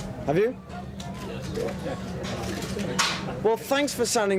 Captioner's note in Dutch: verslaggevers mompelen; camera sluiters klikken